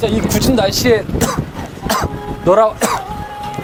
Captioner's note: strong wind; cough, cough